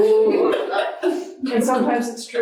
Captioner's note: audience laughing